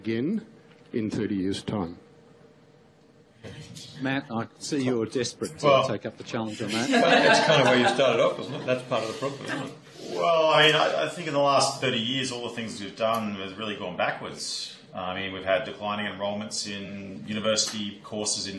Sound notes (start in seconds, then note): 6.6 laughter